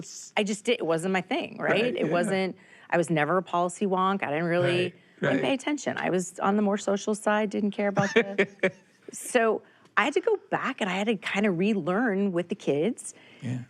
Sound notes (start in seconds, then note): 8.0 laughing